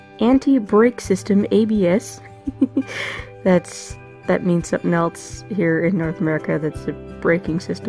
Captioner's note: giggles